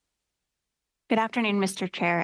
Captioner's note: speaking French